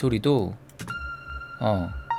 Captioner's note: bell